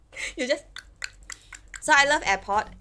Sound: clicking sounds

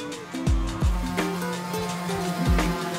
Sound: buzzing

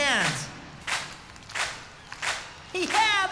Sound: clapping

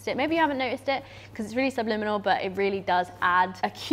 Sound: none

